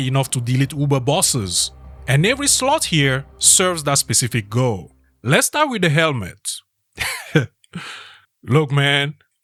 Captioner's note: pause, half-laugh